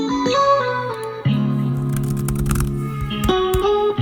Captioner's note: typing sound